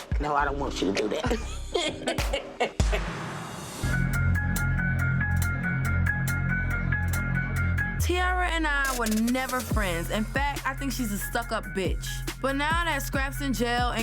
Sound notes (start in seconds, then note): 1.2 laughter; 4.6 mellow music